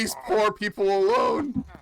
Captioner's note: yelling